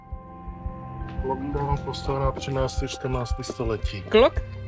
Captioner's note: reading in English